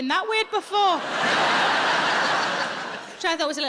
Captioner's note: audience laughing